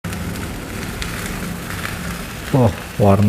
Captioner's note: PET film noise